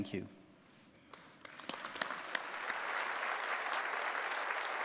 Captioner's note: audience applauding